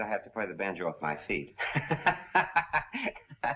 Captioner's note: laughs